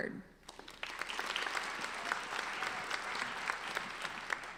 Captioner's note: applauding